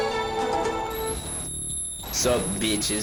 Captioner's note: TV whines